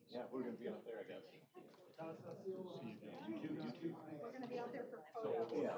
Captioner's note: off-mic chatter